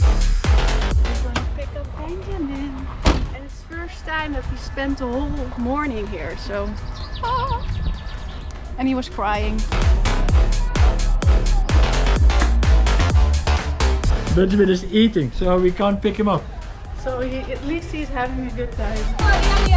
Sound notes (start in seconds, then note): 7.0 exclaims; 10.6 upbeat music